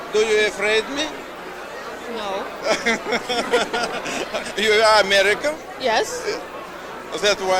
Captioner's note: joint laughter